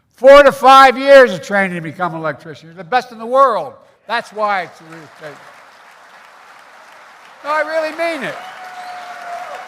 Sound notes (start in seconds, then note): 6.2 applause